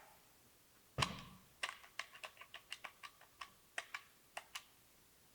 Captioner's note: phone clicks; buttons clicking